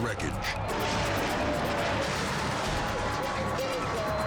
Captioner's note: car crashing